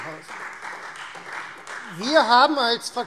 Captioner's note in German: Beifall Freie Demokraten